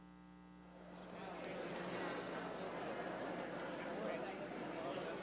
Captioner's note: people chattering